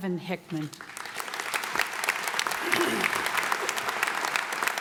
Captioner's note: applause